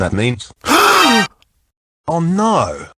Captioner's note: gasps